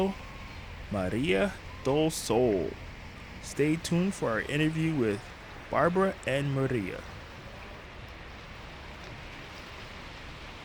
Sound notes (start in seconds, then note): 4.0 water flowing